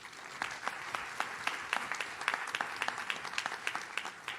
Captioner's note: audience claps